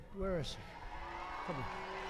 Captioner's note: applause